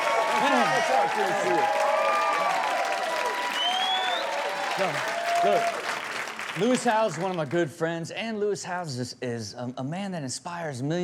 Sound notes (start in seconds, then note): 0.3 audience cheering and clapping; 2.2 audience cheering